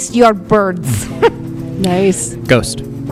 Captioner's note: laughs